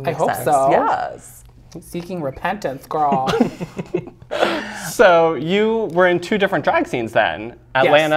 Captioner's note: laugh